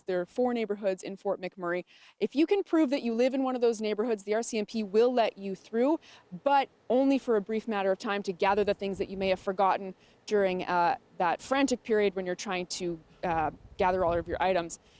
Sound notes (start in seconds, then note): none